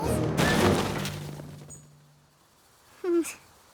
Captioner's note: crash!; sighs